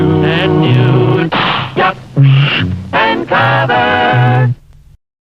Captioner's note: bang, gasp